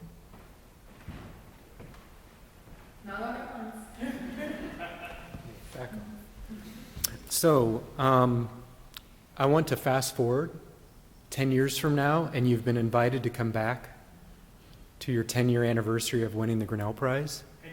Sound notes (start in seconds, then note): 3.9 laughter